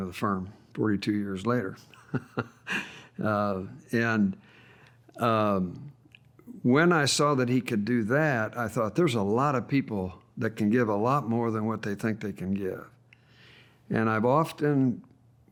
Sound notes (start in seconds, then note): 1.9 laughs